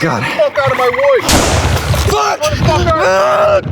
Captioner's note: sounds of shots fired